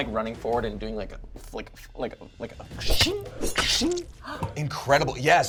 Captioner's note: makes sword slashing and stabbing sounds